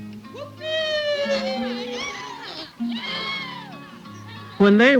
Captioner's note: children shouting and playing